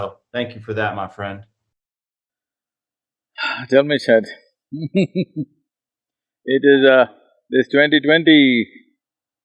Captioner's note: sighs; laughs